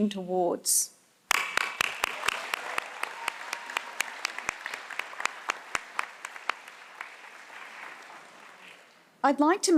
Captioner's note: applause